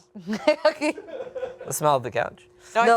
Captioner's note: and producer laughs